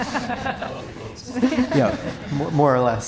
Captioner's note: audience Laughing